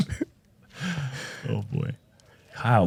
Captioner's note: laughs